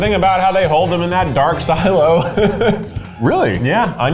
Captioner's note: laughs